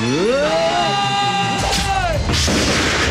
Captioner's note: Screams; Gunshot